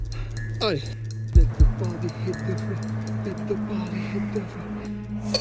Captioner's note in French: il chantonne